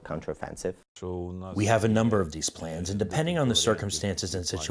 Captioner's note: through translator